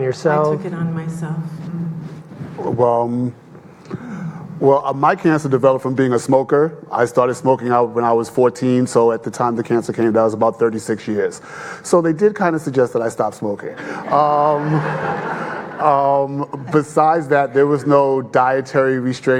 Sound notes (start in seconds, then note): 13.8 audience laughing